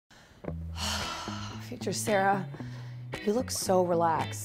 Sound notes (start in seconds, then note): 0.7 sigh